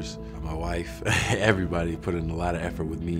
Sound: laughs

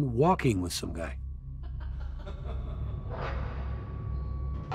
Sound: laughter

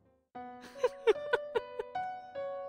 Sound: laughs

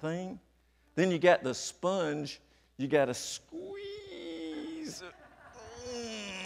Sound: grunts

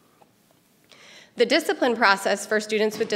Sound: none

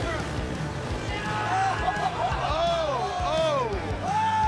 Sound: crowd exclaiming

